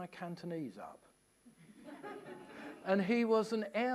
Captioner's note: laughter